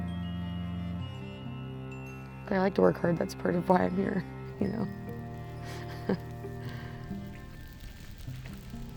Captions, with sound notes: I like to work hard, that's part of why I'm here, you know? (chuckles)